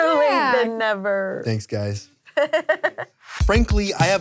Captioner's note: chuckles